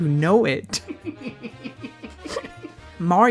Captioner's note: snickering